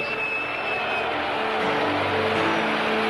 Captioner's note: crowd applauds; crowd cheers; dramatic spirited music